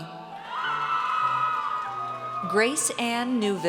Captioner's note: audience cheers